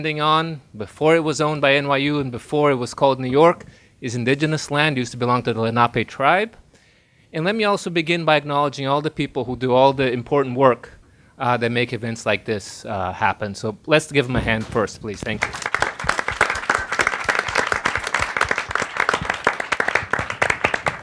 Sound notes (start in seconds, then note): 15.1 audience applauding